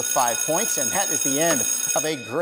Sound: bell ringing

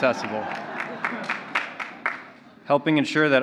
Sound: laughter

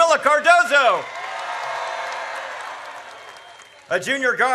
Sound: audience cheers

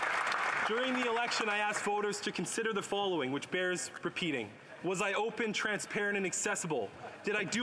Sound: some Applause

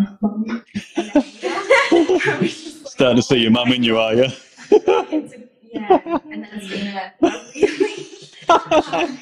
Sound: laughs

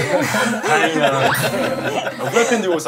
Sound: chuckles

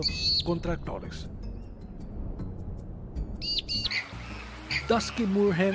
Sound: wind noise

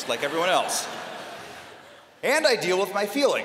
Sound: laughter

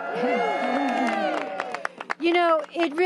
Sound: applause

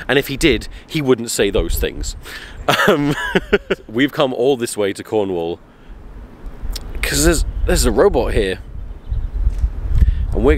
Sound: laughs

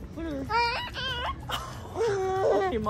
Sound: cooing

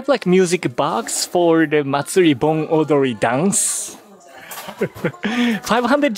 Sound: chuckle

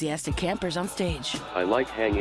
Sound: cheering

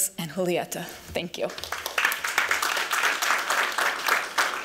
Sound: applause

